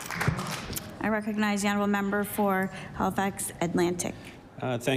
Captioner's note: applause